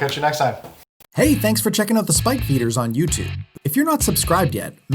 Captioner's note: voiceover